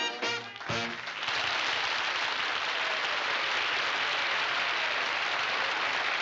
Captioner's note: audience applauding